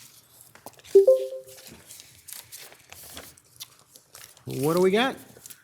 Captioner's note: electronic beeping